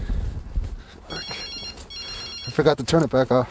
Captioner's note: phone ringing